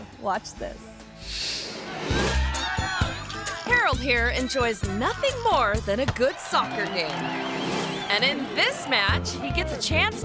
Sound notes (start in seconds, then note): 2.0 audience chattering; 6.1 audience applauding